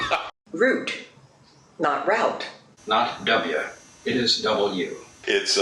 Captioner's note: laughs